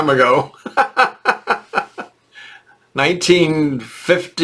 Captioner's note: laughing